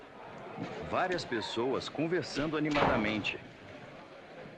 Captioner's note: people chattering